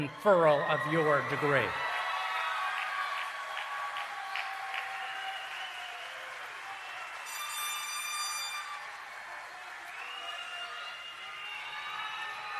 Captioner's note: cheering and Applause